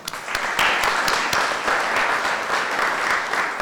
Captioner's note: applause